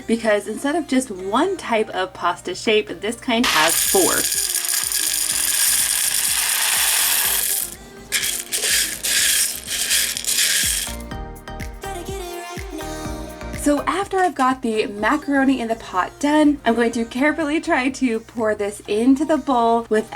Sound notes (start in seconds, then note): 4.6 pasta clattering